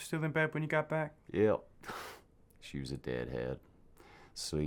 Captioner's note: scoffs